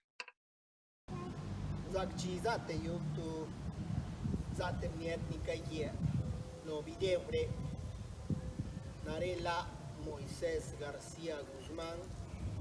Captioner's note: speaking in Tlacochahuaya Zapotec